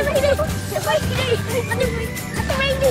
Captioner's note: kid laughing